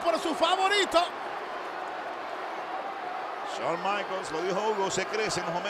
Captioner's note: applause